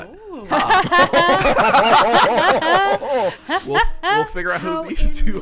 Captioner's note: everyone laughing